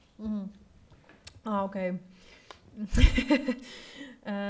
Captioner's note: laughs